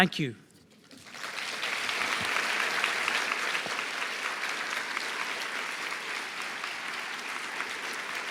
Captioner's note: applause